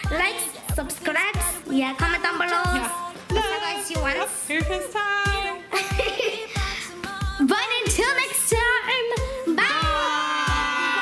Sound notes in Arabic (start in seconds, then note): 5.7 يضحك